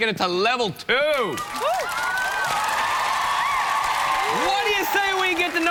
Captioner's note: cheers and applause